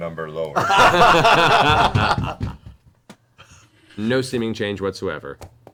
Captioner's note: all laugh